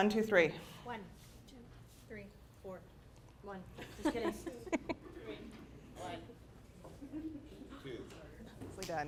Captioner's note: participants number off